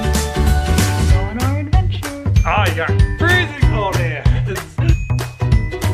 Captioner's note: they both laugh